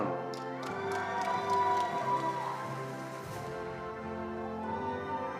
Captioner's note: attendees applauding